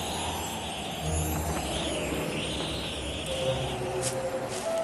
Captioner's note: tinkling; gust! gust! gust!